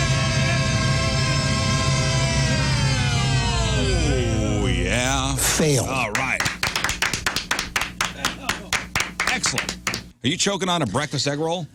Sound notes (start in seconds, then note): 6.1 applause